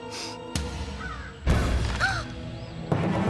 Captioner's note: gasps